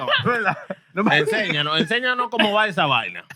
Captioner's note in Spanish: Hablando en idioma extranjero